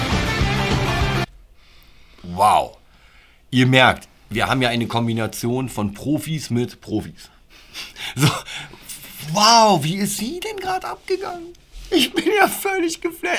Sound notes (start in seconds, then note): 7.8 laughter